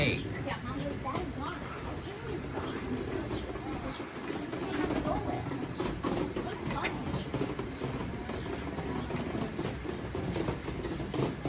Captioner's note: walking